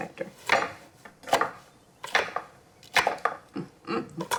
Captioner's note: knife chopping